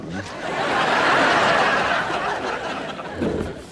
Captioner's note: audience laughs